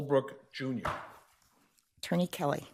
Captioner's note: gavel thuds